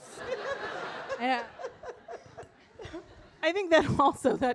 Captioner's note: audience laughing